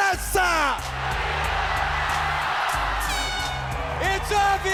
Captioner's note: applause